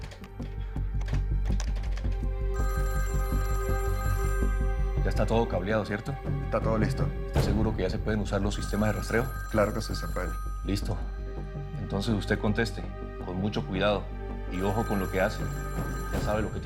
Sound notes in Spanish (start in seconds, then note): 0.3 Sonido al marcar; 2.5 Suena el teléfono